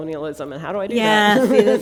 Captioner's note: laughter